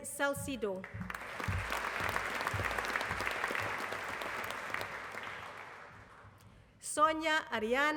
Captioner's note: applause